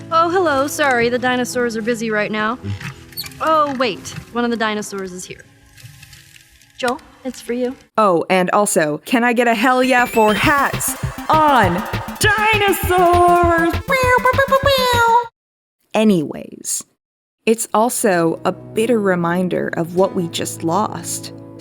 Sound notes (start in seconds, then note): 13.8 airhorn sounds